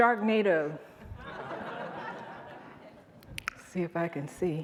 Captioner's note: audience laughing